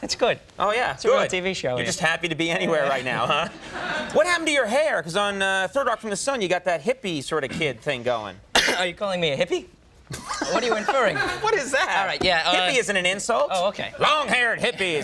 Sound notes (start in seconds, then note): 2.8 audience laughing; 8.5 Joseph coughing